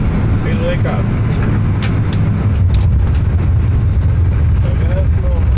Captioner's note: pilots speak in foreign language